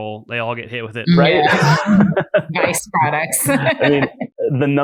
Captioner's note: laughs